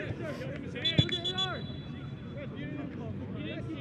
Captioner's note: whistle blows